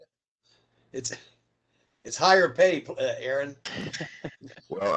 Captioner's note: laughter